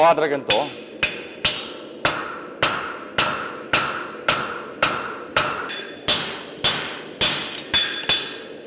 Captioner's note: sharp metallic hammering